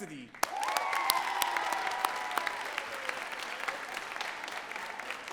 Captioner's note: audience cheering and clapping